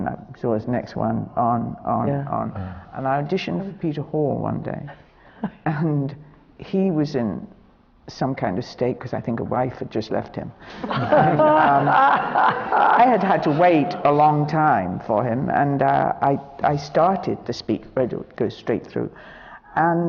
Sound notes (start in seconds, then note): 10.7 laughter